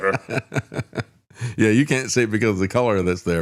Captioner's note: laughs